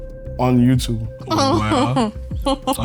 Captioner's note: laughs